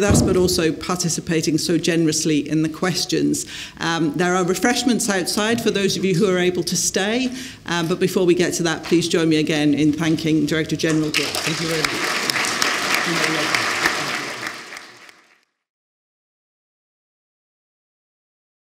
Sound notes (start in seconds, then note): 10.8 applause